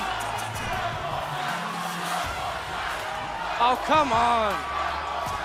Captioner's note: crowd cheering